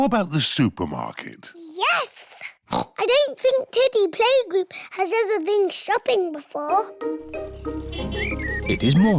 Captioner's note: oinks